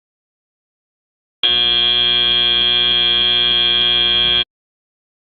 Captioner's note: end of match, buzzer sounds